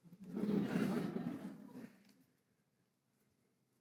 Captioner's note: audience chuckling